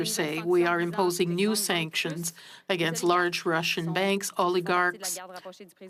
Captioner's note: speaking French